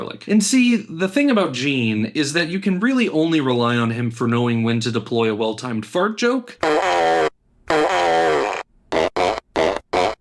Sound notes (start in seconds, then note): 6.6 fart noise; 6.6 rapid succession of fart noises; 7.7 sighs